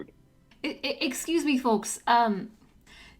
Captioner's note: light Long Island accent